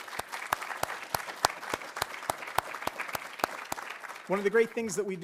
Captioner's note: audience applauding